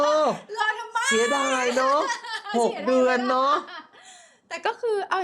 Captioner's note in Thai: เสียงหัวเราะ; เสียงหัวเราะ